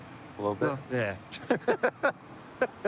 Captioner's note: laughter